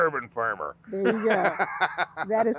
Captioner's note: laughing